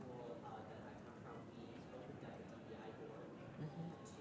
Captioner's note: speaks faintly